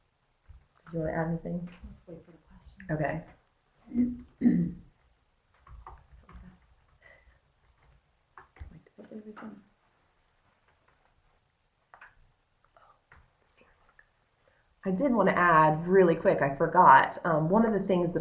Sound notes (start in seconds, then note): 4.6 no sound - waiting for questions